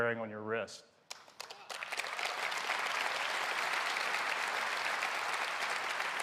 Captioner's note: applause